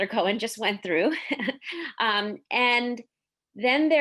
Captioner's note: giggles